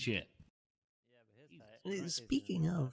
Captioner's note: background chatter